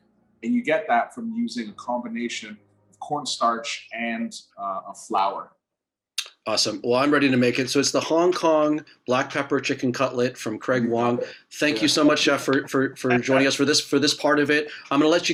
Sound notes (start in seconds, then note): 11.8 laughing